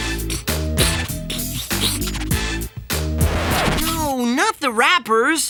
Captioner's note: sputtering